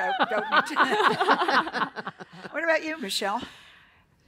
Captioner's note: laughter